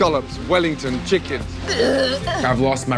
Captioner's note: retching